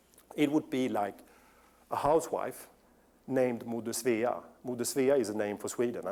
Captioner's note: non-english speech; non-english